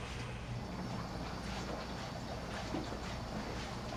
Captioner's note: footsteps Approaching